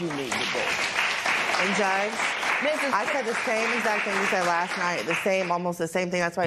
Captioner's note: applause